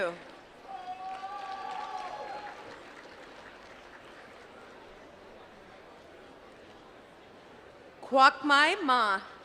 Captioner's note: applause